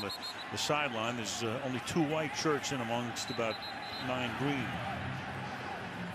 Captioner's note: crowd chanting, "go, packers, go"